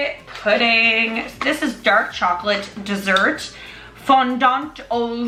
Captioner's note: in foreign language